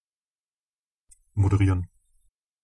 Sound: fast Pronunciation

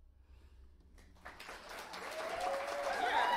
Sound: audience applauding

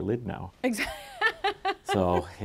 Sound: laughs

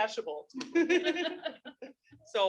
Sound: participants laughing

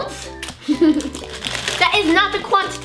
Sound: laughs

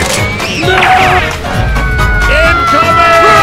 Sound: Louis screaming and falling from the sky on his piano

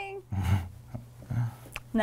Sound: laughing

